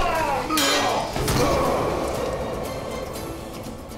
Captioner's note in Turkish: Dövüş sesleri